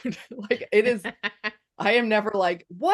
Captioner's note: laughs